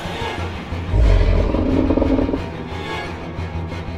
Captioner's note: deep Growling Noise